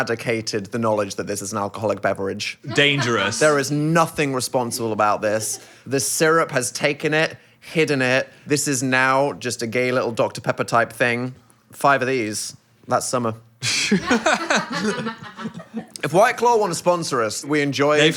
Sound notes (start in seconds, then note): 13.7 Phil and crew member laughing